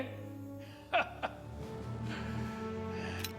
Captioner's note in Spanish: risas